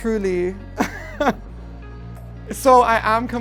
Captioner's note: laughs